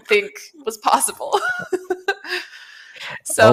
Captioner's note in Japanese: 笑い